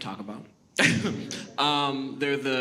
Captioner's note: laughs